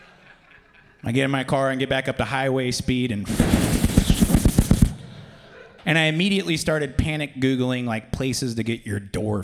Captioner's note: wind